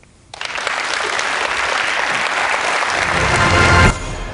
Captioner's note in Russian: Аплодисменты